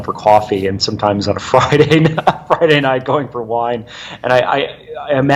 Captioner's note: laughing